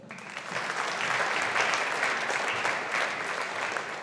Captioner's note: audience applauding